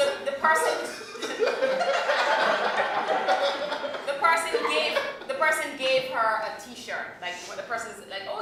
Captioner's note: laughter